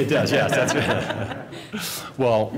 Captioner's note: laughter